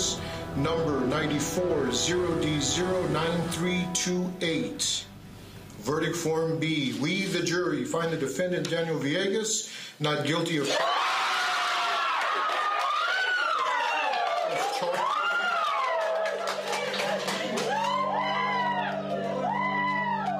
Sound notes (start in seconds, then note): 10.4 screaming and cheering; 17.4 whooping continues